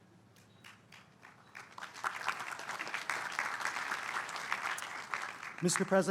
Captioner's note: applause